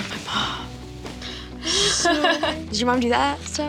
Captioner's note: chuckles